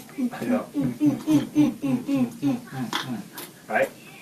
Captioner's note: excited humming